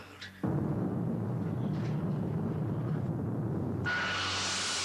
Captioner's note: room rumbling; machine whirring